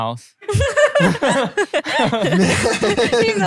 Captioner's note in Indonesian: tertawa